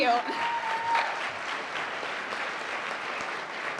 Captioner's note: applause